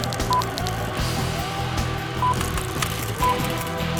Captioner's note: timer beeping